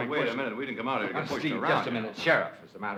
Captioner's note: arguing